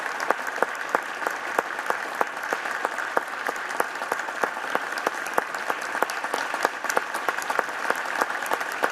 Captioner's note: applapplauause